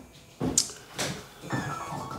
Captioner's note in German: Klingel-Ton